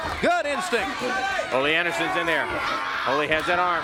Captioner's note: crowd cheering